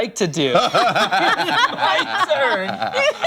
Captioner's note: laughter